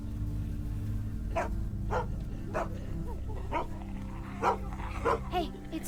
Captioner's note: dog barks